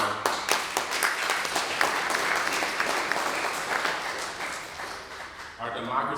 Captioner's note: applause